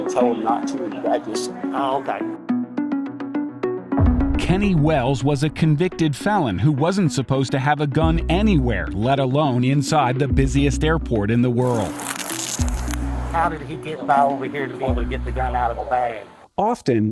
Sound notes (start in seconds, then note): 11.6 police tape stretching